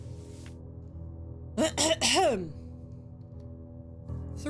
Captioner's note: clears throat